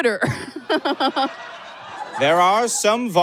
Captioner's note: audience guffaws and cackles